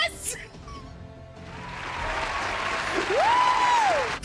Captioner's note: canned Applause